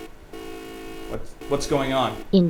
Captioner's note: beeping